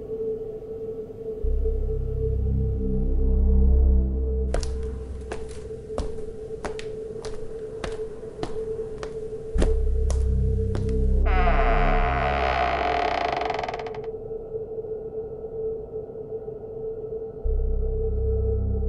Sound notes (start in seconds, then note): 4.5 foot steps; 11.2 door creaks